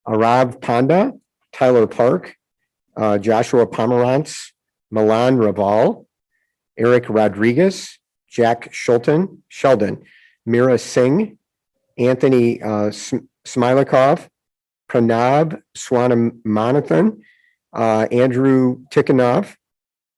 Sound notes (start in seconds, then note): none